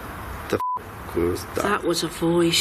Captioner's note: beep